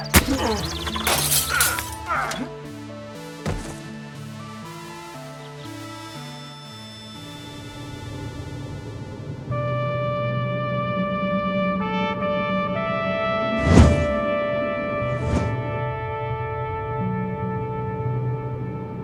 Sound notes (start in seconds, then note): 0.0 glass shatters; 0.1 man groaning; 9.4 soft music; 15.1 air whooshing